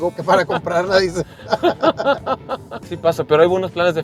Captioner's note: laughter